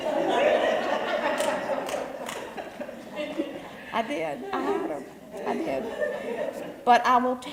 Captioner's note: laugh